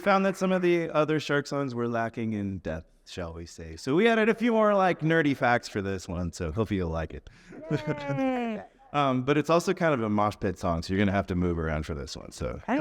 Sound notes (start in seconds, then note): 7.5 laughs